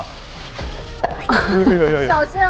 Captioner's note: sizzle